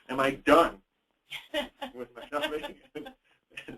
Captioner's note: chuckles; laughs